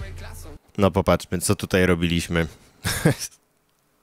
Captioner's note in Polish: śmiech